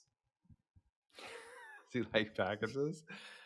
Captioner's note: chuckles softly